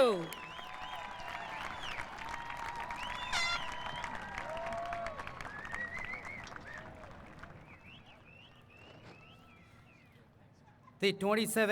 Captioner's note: applause